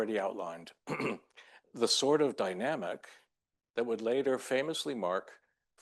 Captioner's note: clears throat